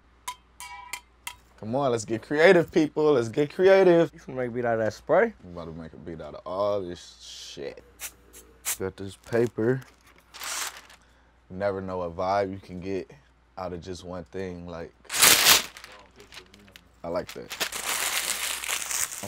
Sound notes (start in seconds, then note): 0.2 metal ringing; 7.9 bottle spraying; 9.7 paper crinkles; 15.1 paper rips; 17.0 paper crinkles